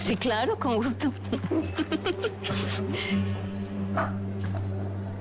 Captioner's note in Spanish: Risas